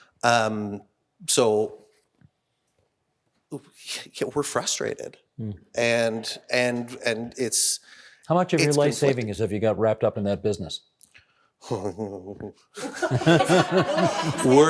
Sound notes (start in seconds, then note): 12.8 everyone laughing; 12.8 laughing